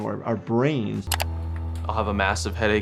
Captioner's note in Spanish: clics en la foto